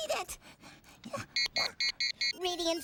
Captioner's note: beeping